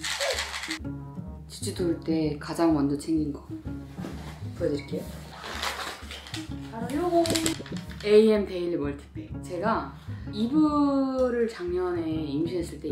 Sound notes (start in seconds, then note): 5.1 rummaging